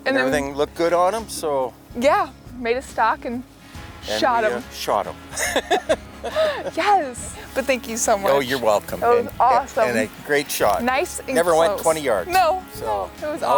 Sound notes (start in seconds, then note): 5.3 laughs